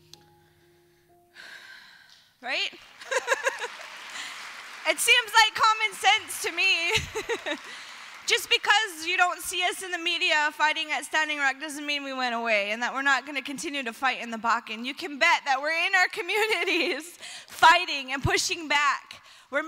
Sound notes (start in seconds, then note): 2.7 applause